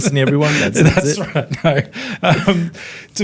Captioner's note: all laughing